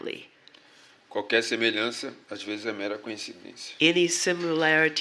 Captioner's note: speaking portuguese